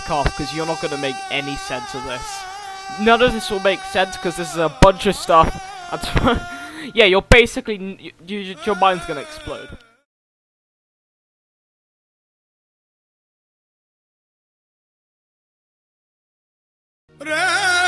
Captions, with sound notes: Because you're not going to make any sense of this. None of this will make sense because its a bunch of stuff- That's *laugh* Yeah, you're basically- *stammering* Your mind is going to explode.